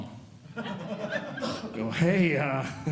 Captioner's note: audience Laughing